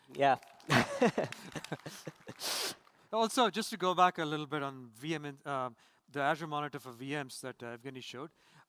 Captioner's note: applause